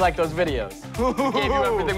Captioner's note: chuckles